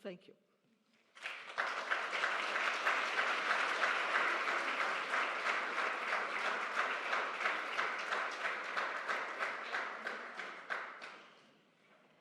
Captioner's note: applause